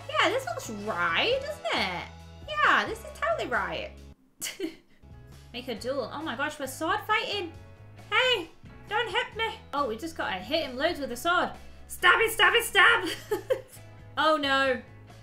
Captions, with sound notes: Yeah, this looks right, doesn't it? Yeah, this is totally right. (chuckles) Make a duel. Oh my gosh. We're sword fighting. Hey, don't hit me. Oh, we just gotta hit him loads with the sword. Stab, stab, stab. (laughs) Oh no.